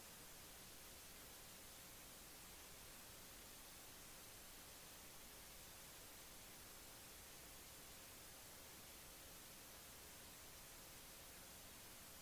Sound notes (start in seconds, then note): none